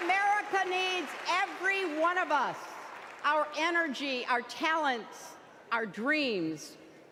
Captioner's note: applause